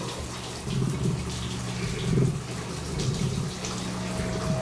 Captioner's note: low growling; eerie music plays